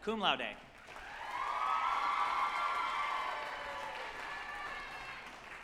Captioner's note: group applauding and cheering